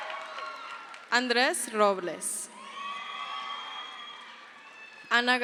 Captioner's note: crowd cheers